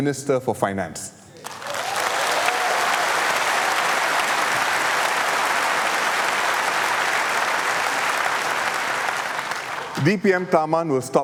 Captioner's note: applause